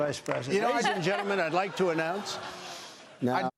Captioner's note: laughter